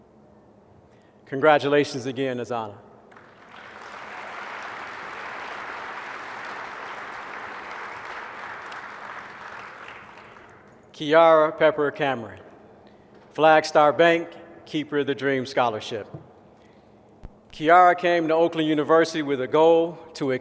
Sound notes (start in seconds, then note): 3.0 applause